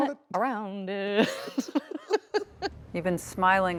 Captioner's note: Kristen and Jon laughing